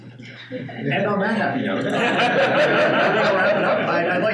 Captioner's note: laughing